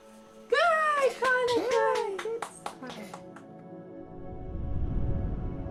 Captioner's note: group claps; slow music